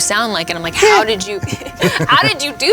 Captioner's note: Robert squeaking